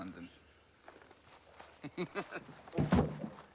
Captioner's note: laughs